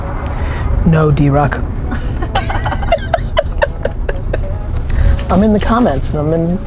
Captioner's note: laughing